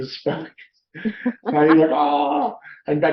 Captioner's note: both laughing